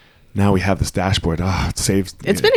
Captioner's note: sighs